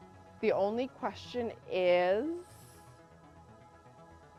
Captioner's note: gasps